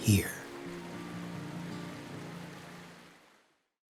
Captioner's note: water gurgling